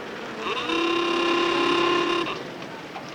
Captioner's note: car horn honking